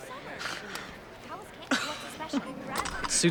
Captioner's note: laughs